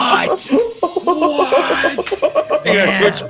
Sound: laugh

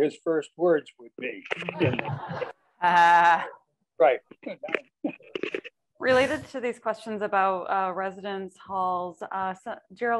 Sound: laughter

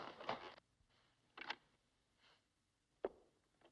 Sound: clatter

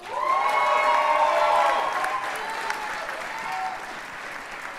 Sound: audience cheers and applauds

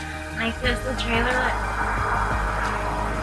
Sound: car passes

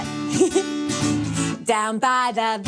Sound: chuckles

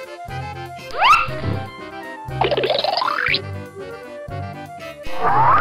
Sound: zipping sound effect; various cartoon sound effects

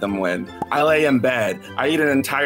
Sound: pop sound

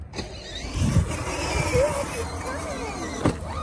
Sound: engine roaring

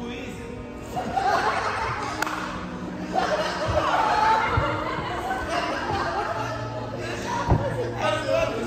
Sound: laughing

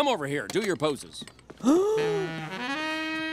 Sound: gasping

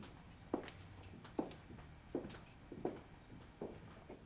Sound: footsteps

